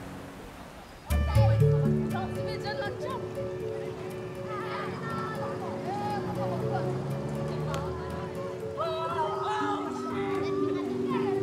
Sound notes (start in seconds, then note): 1.1 gentle music; 3.1 people chatter; 8.9 children shout